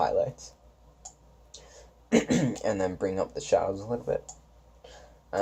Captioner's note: clears throat